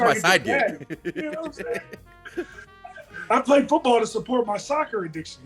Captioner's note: laugh